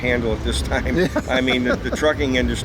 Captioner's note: both laugh